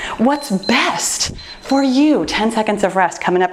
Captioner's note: timer beeps